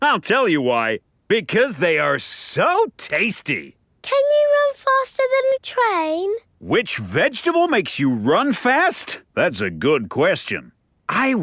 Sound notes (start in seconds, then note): none